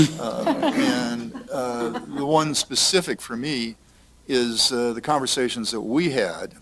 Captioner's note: laughter